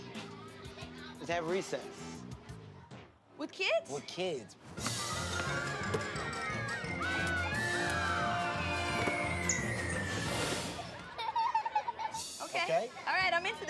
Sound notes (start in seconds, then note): 10.9 laughs